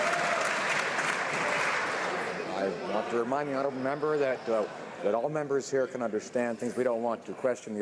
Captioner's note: some Applause